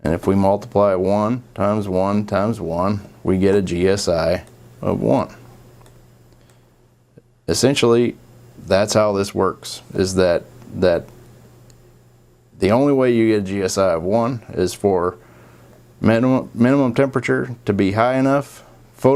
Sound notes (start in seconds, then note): 5.8 mouse clicking